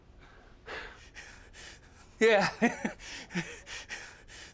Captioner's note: nervous laughter